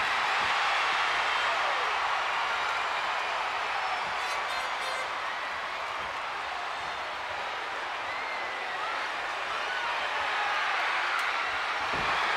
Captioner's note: applause